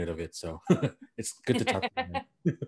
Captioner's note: laughing